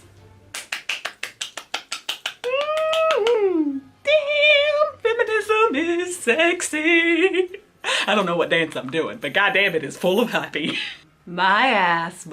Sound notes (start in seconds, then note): 0.5 claps